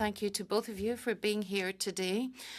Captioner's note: speaking French